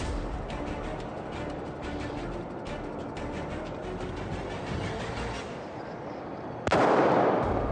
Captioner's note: whistle blowing